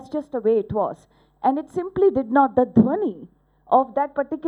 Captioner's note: non-english speech